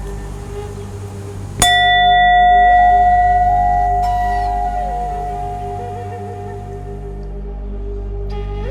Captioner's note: bell rings